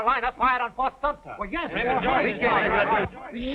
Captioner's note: arguing